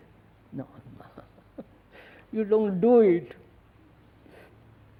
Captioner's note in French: rires